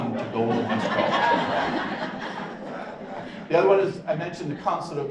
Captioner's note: audience laughs